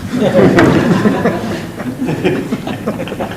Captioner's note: laughing